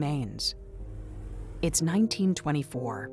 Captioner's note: transition whooshes